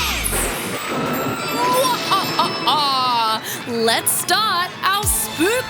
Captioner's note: laughs maniacally